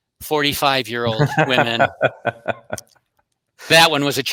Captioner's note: laughing